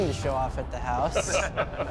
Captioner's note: laughter